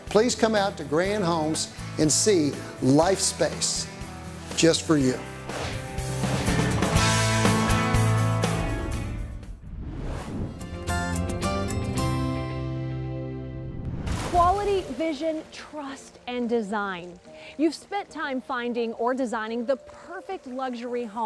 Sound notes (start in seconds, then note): 5.4 whoosh; 10.8 splash